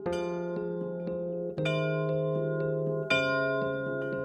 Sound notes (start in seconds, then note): 2.1 bell ringing